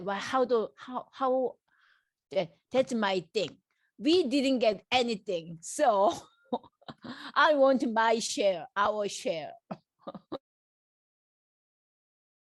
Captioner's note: laughs